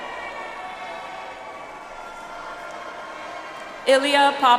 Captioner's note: audience applauds